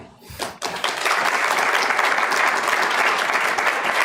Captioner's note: applause